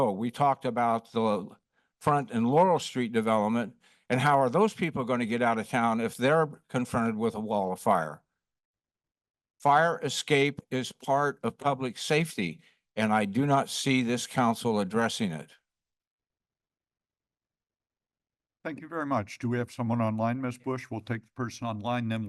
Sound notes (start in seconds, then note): 8.2 pause; 15.6 silence